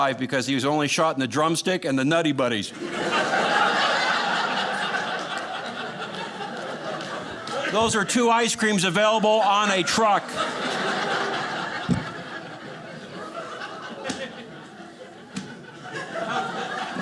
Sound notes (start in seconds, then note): 3.2 audience laughing; 10.5 audience laughing